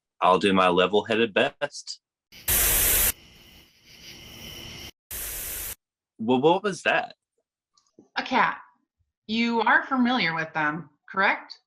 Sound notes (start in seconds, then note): 2.4 buzzing sound